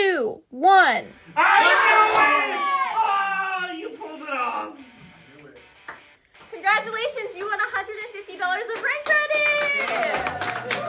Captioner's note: applause